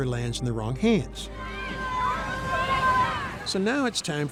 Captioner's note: children chattering